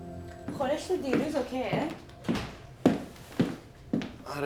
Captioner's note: speaking foreign language